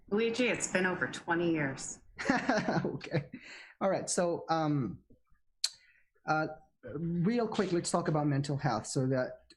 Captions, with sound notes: - Luige, it's been over 20 years. (laughing) - Okay. All right, so real quick let's talk about mental health.